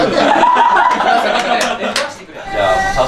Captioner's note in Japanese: 爆笑